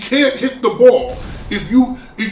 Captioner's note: crashing noise